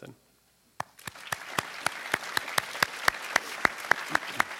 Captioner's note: applause